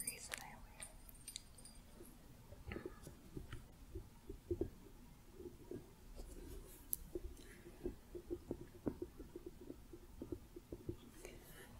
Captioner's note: jingling, then tapping